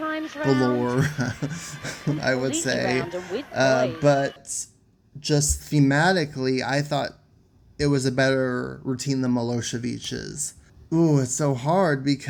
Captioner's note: laughs